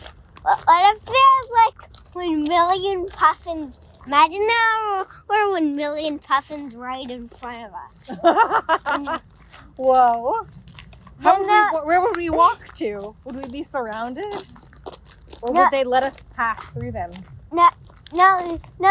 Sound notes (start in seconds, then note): 8.1 cackling